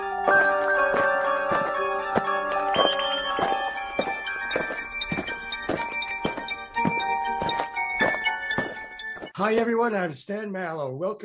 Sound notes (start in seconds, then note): 0.1 eerie music; 3.3 feet thumping